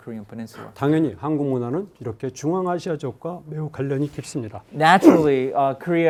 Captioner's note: speaking in Korean